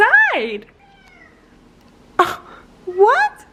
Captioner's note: Peach meowing